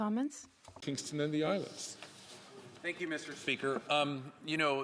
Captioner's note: speaking French